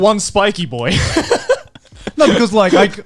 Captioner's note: laughs